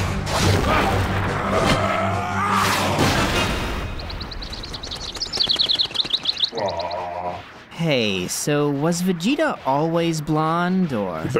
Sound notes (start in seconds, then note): 3.3 birds chirping